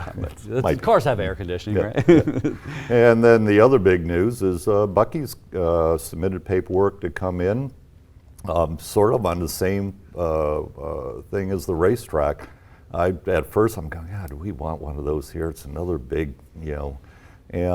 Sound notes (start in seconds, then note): 2.4 chuckles